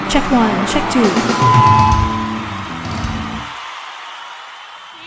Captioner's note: audience applause